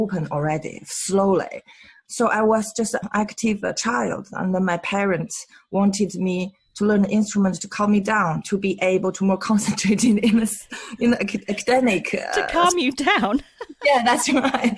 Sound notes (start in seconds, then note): 13.5 laughs